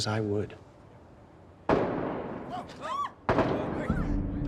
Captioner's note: gunfire; screaming